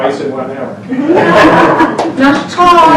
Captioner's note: laughs